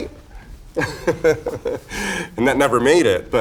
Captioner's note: Raja laughs